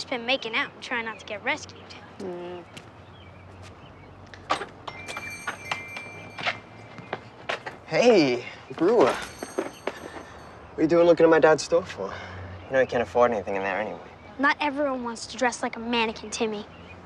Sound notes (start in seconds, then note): 4.8 bell ringing